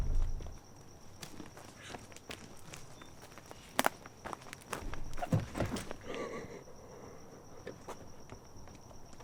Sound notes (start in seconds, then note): 5.2 crying